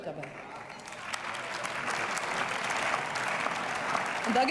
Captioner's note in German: Beifall